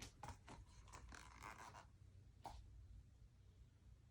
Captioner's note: book squeaking